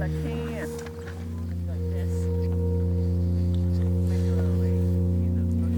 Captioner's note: people talking softly